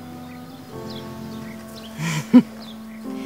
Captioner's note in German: lacht